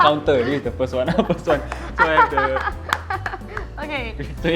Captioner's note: laughing hysterically